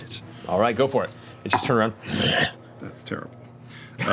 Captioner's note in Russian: рычит